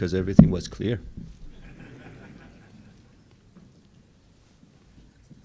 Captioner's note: laughs